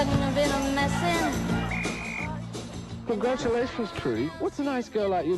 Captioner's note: whistle blows